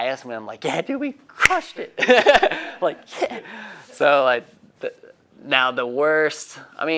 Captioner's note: laughing